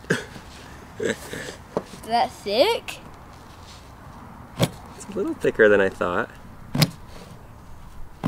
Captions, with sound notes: (laughs) - Is that thick? - It's a little thicker than I thought.